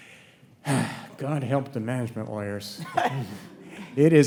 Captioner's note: sighs